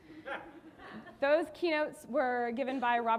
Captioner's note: audience laughing